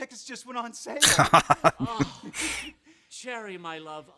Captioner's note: laughing